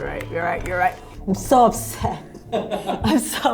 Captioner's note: laughs